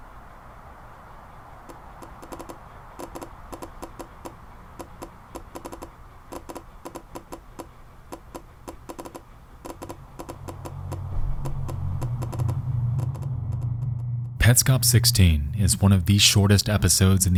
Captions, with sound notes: (clicking sound) (ominous music) Petscop 16 is one of the shortest episodes